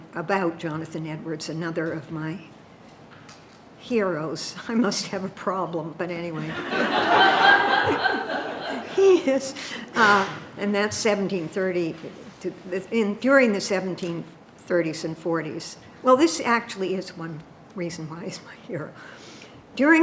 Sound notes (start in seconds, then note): 6.4 audience laughing